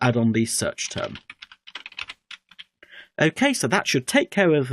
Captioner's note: keyboard typing